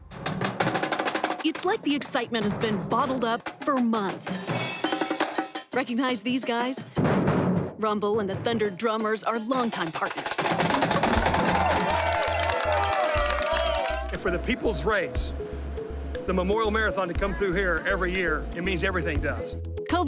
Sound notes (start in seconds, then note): 0.2 drums banging; 10.6 crowd cheering; 10.7 drums banging